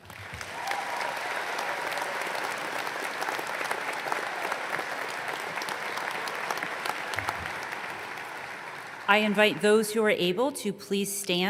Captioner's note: applause